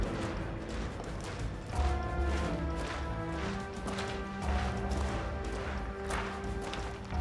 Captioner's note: footsteps tapping; suspenseful music